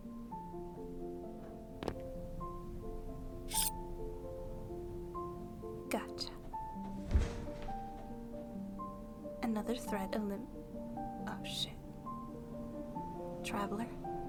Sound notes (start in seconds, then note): 1.8 footsteps landing from a jump; 7.1 soft thud of body falling